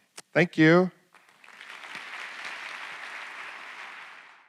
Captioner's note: applause